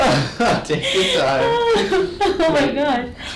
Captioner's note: patient laughing